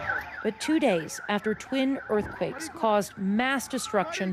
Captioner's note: wailing; sirens